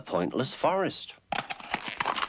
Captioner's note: egg cracking